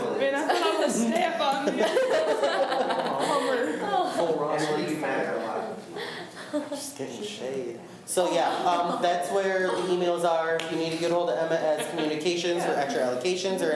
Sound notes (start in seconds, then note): 0.2 laughs; 1.9 students talk amongst themselves